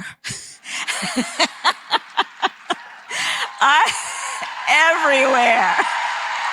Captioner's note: laughs